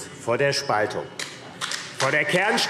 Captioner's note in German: Beifall AfD